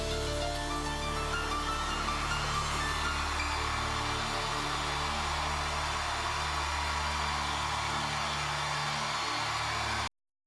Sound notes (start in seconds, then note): 6.9 cheers & applause